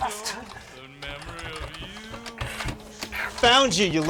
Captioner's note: rattling door handle